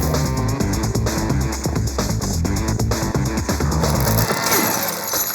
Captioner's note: ice whooshing